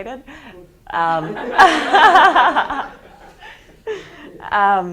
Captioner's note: students laughing